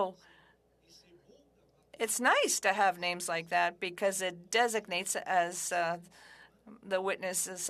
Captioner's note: speaking French